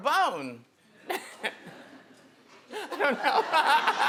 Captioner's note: laughing